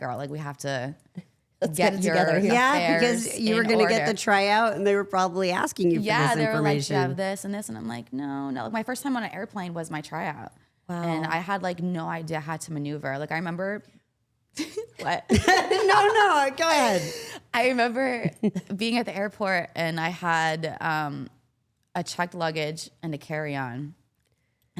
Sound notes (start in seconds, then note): 14.6 all laughing